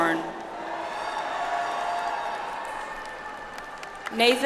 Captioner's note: audience applauds